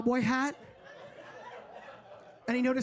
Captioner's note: audience laughing